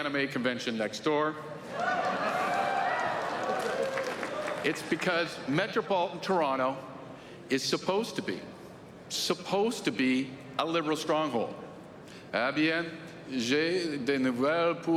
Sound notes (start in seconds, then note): 5.4 cheering